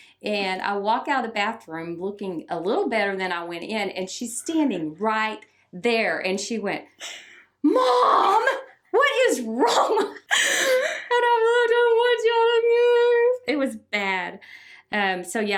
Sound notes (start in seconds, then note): 9.4 both laugh; 11.3 speaking in a quavering voice